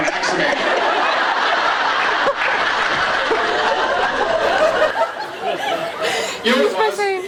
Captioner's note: laughs